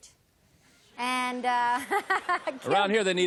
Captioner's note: laughs